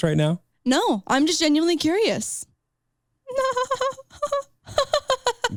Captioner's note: chuckles